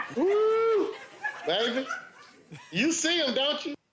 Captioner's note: exclaims